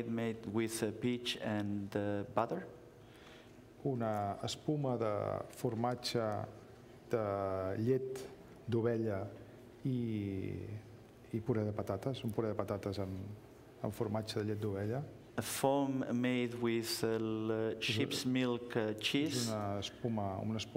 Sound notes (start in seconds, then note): 7.6 speaking catalan